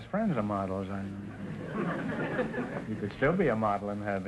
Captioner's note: audience laughter